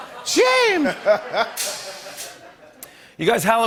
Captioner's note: laughter